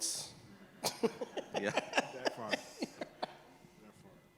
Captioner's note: all laugh